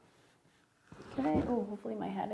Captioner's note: pencil scraping